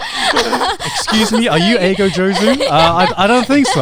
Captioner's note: everyone laughing; speaking in Japanese